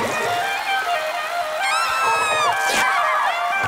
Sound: playing jazzy tune; screaming

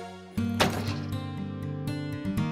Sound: door closing

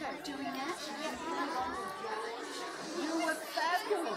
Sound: kids chattering

